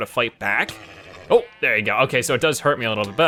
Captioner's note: horse nickers